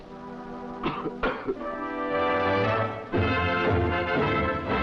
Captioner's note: coughing